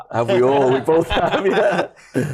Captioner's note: laughter